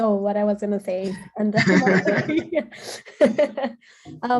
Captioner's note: laughing